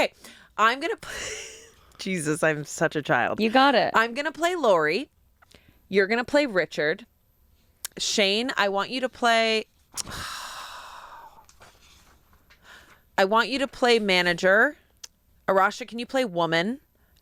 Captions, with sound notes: - Okay. I'm gonna play (laughs) Jesus. I'm such a child. - You got it. - I'm gonna play Lori. You're gonna play Richard. Shayne, I want you to play (sighs) I want you to play Manager. Arasha, can you play Woman?